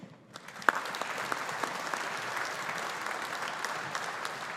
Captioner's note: audience applauding